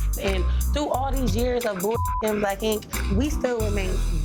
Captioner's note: beeps